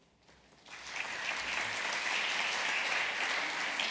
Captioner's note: applause